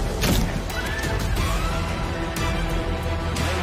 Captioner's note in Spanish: Gritos; Estruendo